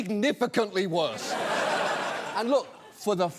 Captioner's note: studio audience laughs